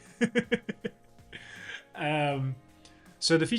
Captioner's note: laughs